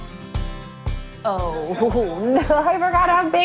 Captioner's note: laughing